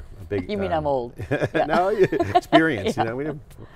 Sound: laughing

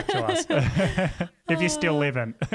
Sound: all laugh

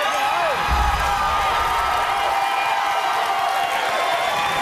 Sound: audience cheers

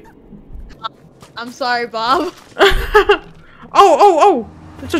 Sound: chuckles

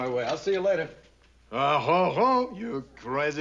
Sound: french accent

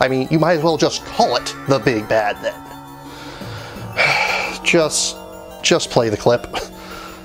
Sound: heavy sigh

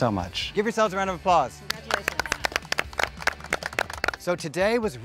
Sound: all clapping

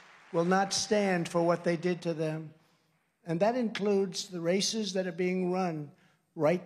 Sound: applause

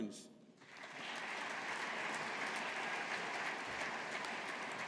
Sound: audience applauding

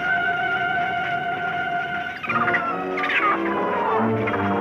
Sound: monkey chittering

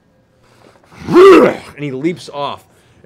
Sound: growls

